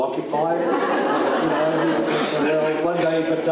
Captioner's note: audience laughs